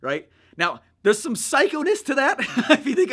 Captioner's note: laughs